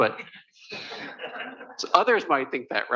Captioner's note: laughter